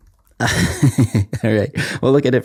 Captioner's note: chuckles